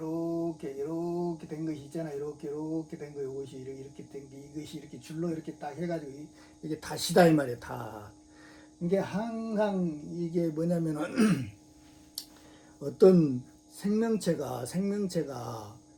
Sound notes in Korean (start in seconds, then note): 11.0 목을 가다듬음